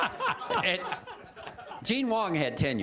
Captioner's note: laughter